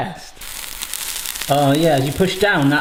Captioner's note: pancake sizzles